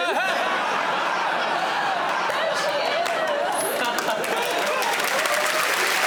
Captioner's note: audience laughing